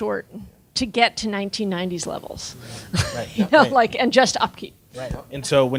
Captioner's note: laughing